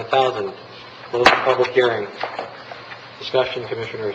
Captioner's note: gavel striking